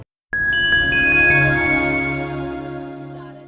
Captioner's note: light chime